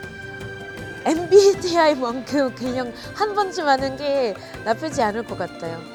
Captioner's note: lightheartedly